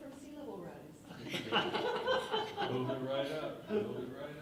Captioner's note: laughing